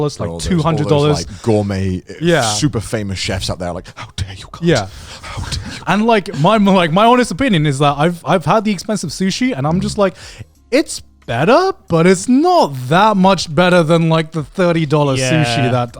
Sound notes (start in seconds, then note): 4.2 whispers